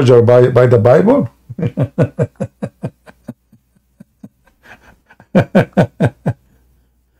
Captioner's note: Ketawa